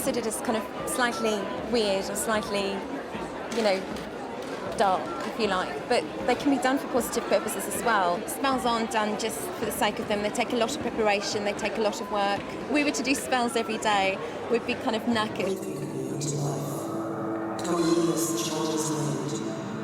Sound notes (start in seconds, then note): 15.9 whispers